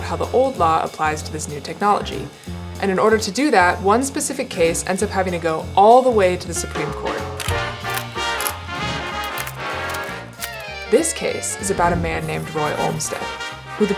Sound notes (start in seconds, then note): 7.2 jazz music; 7.4 camera snapping